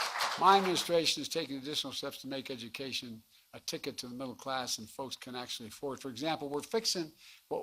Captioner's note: applause